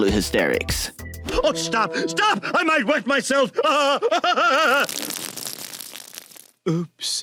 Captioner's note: Ed laughs and wets himself